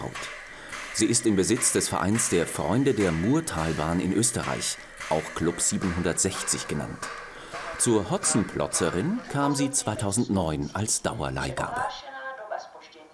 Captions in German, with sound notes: Sie ist im Besitz des Vereins der Freunde der Murtalbahn in Österreich, auch "Club 760" genannt. (Klopfende Geräusche) Zur Hotzenplotzerin kam sie 2009 als Dauerleihgabe. (Durchsage auf Tschechisch)